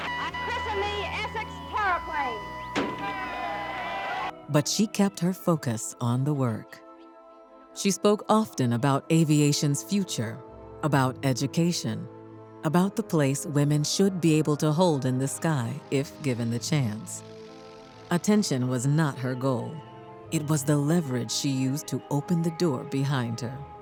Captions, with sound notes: I christen thee Essex Terraplane. (bang) (crowd cheers) But she kept her focus on the work. She spoke often about aviation's future, about education, about the place women should be able to hold in the sky if given the chance. Attention was not her goal. It was the leverage she used to open the door behind her.